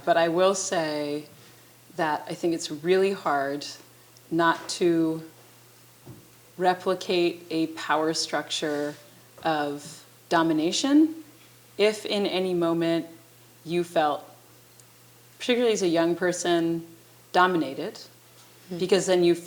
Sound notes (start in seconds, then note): none